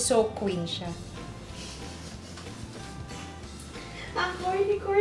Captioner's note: laughs